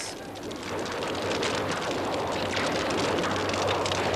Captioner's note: guns firing